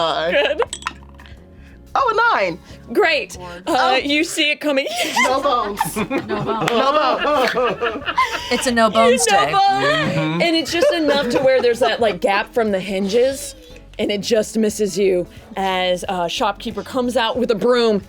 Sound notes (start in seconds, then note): 7.7 laughter; 9.7 laughs